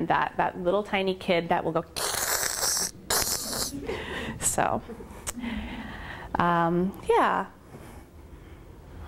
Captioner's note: sniggers